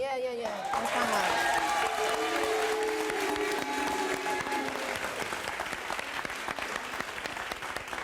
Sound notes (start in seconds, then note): 0.4 audience claps and cheers